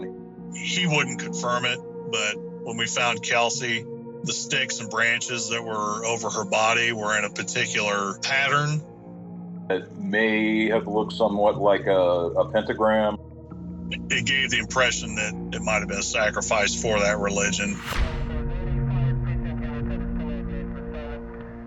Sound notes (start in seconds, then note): 17.4 suspenseful chord strikes; 17.7 police radio chatter